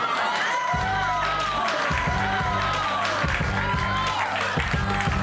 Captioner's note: audience cheering